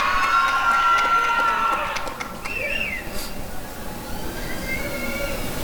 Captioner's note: applause and cheering